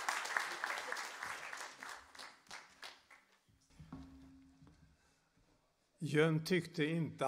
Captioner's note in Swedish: applåder